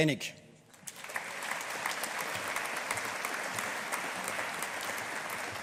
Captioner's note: audience applauding